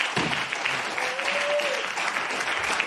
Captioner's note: applause; gavel bangs